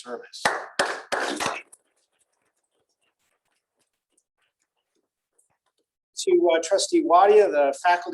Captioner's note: applause